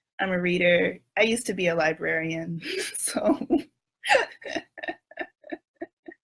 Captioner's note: laughs